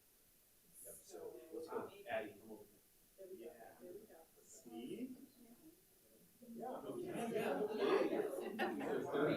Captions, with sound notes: - There we go. - 30 years. (panelists chattering)